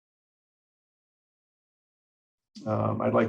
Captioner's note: silence